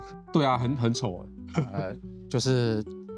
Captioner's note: laughs